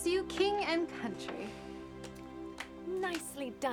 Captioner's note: clapping